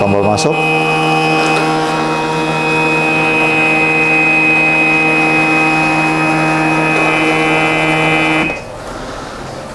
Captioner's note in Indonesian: suara mesin printer